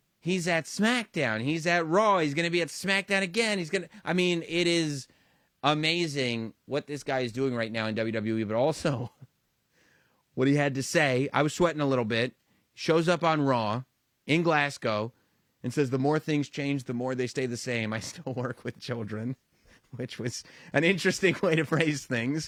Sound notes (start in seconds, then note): 9.0 laugh